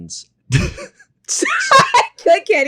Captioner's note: both laugh